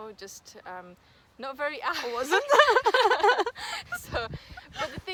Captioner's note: risos